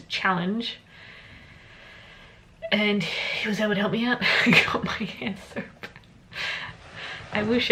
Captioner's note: laughs